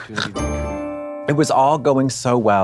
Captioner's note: bright chime